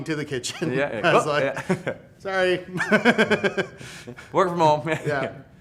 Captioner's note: laughs